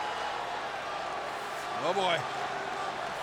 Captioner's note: crowd cheering